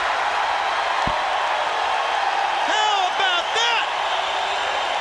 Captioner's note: crowd cheering